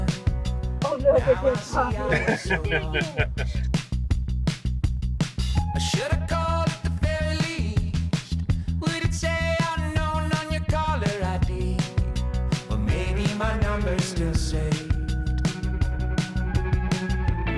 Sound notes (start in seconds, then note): 1.0 laughing